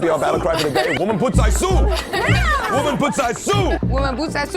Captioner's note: non-english-speech